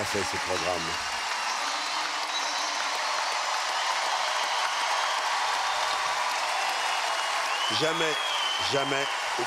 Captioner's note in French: acclamations